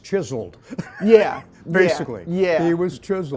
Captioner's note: laughing